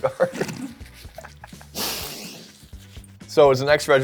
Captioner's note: laughing